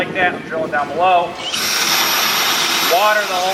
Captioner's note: drilling